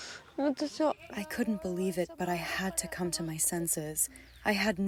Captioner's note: through translator